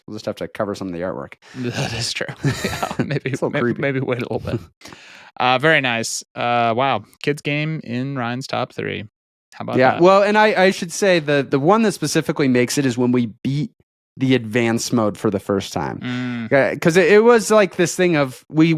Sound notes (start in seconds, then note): 1.5 laughs